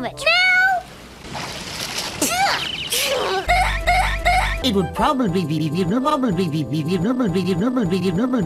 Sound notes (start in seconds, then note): 2.8 spitting; 2.9 weird laughter